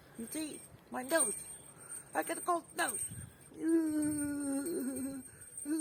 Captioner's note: shivering